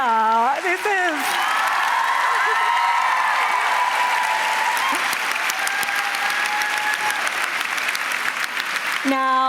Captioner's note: cheering and applause